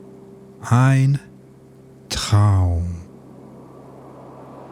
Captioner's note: german